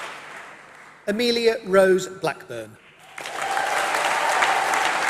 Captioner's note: applause